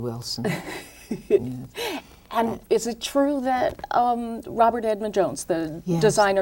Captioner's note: laughs